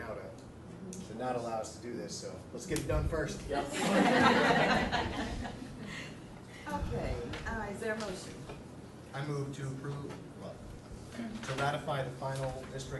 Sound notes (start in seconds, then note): 3.6 all laughing